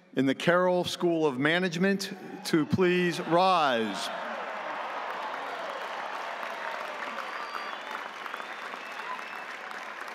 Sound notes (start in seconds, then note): 3.2 audience applauding; 4.5 audience cheering